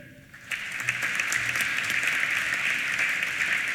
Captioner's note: applause